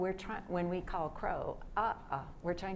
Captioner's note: speaks foreign language